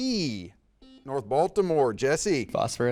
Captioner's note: buzzer dings